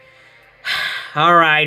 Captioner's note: Hades sighs again